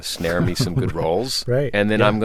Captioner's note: laughter